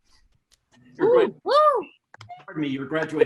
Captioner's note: attendees cheering